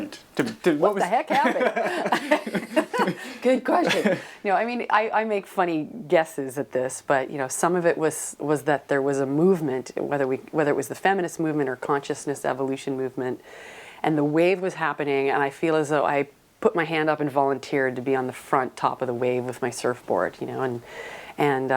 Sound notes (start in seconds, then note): 1.2 laughter